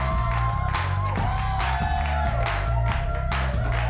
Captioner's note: audience claps